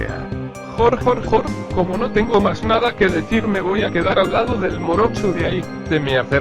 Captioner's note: laughs